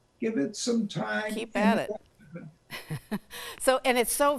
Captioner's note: chuckles